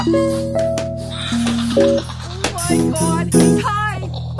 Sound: laughing

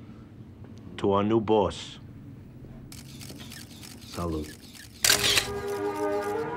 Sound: camera shutter clicking

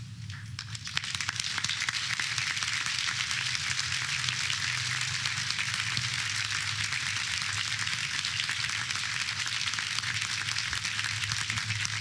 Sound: applause

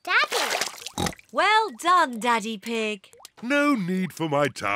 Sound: oinks

